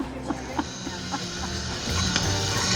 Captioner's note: laughs